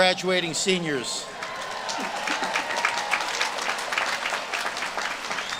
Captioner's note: audience claps and cheers